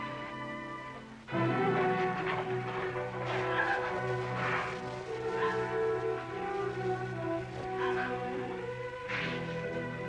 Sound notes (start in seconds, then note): 3.6 crying, sobbing